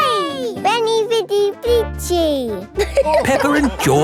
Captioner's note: all laughing